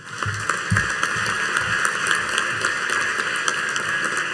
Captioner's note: audience applauding